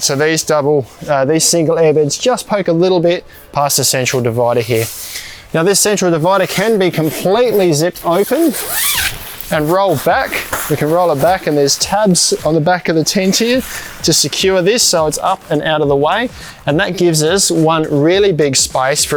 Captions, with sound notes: so these double, these single airbeds just poke a little bit past the central divider here. Now this central divider can be completely zipped open (zipper sound) and rolled back, you can roll it back and there's tabs on the back of the tent here to secure this so it's up and out of the way. And that gives us one really big space